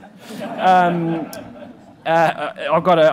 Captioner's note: laughing